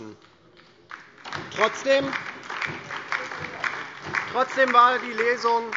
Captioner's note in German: Beifall DIE LINKE und SPD